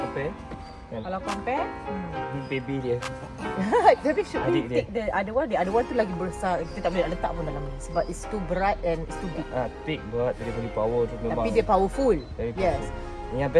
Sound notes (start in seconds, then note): 3.1 laugh